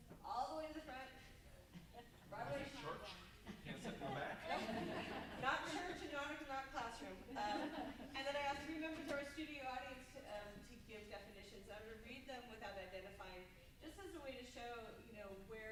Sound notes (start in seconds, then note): 3.7 group murmuring; 7.2 group laughs